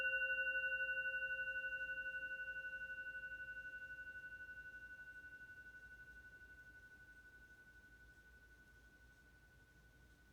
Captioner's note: meditation bell rings